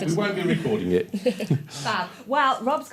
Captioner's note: laughter